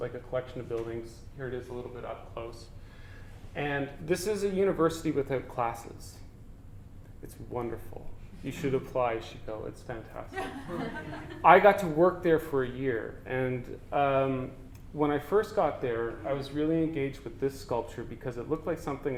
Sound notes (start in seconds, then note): 10.3 audience: Laughter